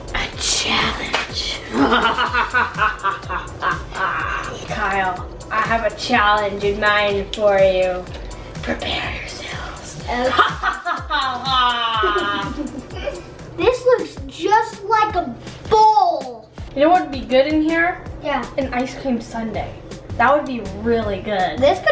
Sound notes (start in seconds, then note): 1.6 wicked laughing; 10.0 wicked laughing